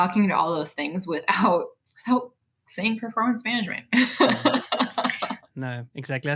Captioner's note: laughs